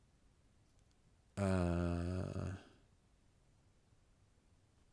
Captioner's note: silence; silence